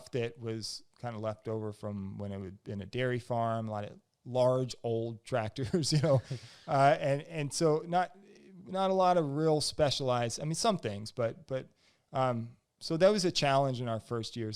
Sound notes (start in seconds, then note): 5.9 laughs